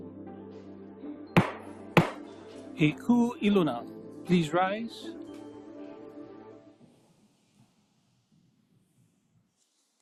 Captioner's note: gavel bangs twice